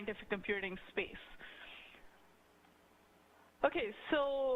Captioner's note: pause